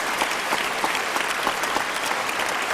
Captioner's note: applause